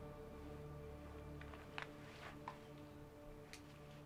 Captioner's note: none